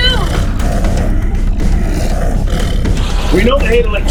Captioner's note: creature snarling